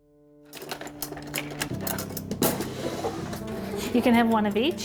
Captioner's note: cutlery cluttering